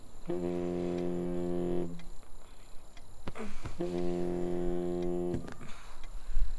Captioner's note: Phone vibrating